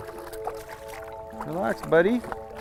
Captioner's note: splashing